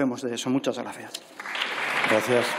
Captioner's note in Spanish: Aplausos